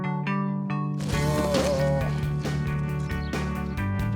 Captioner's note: groan